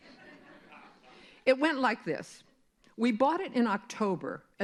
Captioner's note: laughter